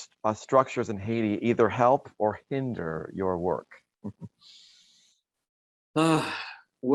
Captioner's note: giggles